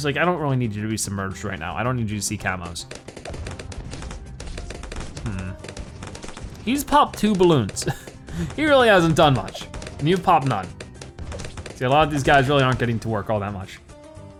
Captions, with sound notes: I don't really need you to be submerged right now. I don't need you to see Camos. (weapons firing) He's popped two balloons. He really hasn't done much. You've popped none. See, a lot of these guys really aren't getting to work all that much.